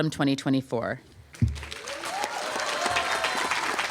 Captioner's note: applause